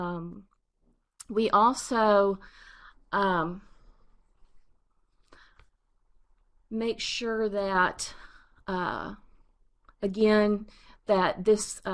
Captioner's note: pause